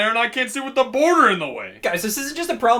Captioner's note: none